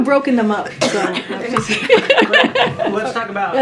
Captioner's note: laughter